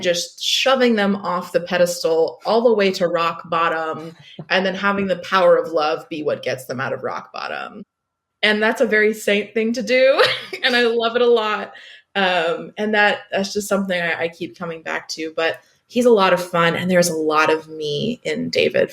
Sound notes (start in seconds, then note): 10.2 laughs